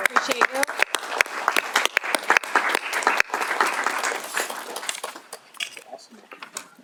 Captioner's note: applause